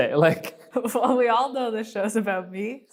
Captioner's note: laughing